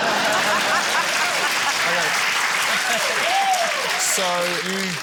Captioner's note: cheering, applause, laughter